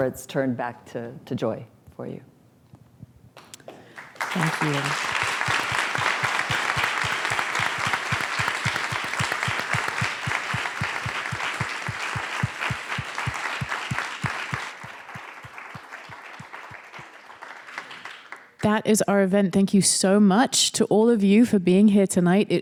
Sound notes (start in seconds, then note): 3.4 applause